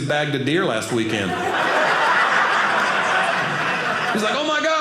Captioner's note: audience laughing